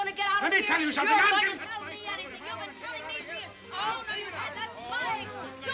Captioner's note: both chattering